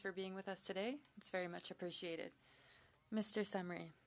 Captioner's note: speaking French